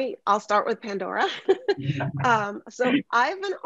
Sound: laughs

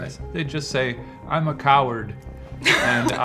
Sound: laughing

